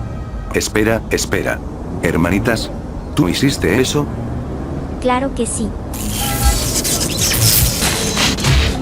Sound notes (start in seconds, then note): 5.9 electric shock